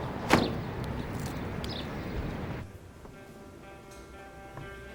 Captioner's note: birds tweet; quiet rock music